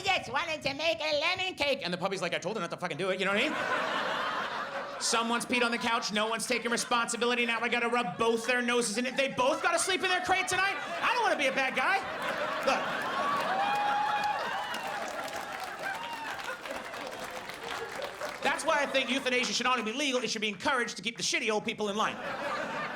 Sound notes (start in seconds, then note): 3.3 audience laughs; 13.0 audience laughs and applauds